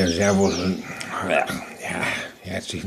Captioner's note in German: Ächzen